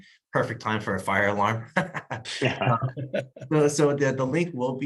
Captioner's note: laughs